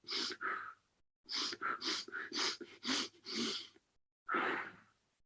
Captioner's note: breathing steadily faster